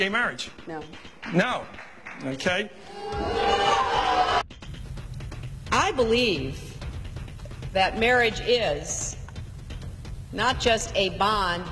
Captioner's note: crowd booing